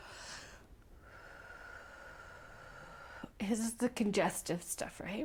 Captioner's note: exhale